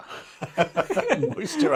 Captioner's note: both laughing